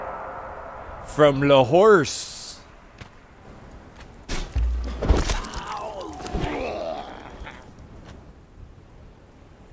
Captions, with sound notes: From le horse. (Last living sounds of seen runner)